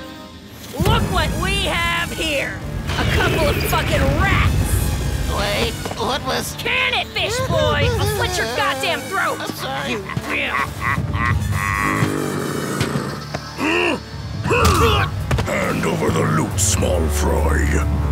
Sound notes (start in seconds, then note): 10.6 hungry laughing